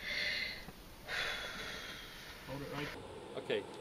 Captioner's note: heavy breathing